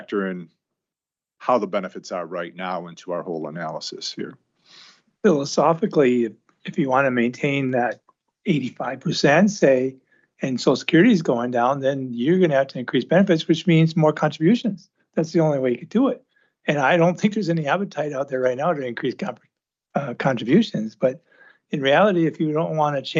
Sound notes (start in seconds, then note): 4.9 snorts